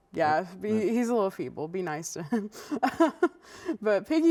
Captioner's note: laughs